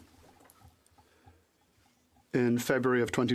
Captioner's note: speaking French